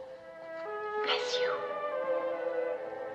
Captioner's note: whispering